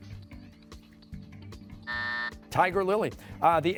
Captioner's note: buzzer